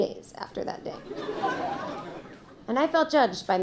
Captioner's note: audience laughing